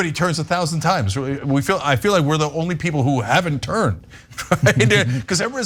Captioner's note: laugh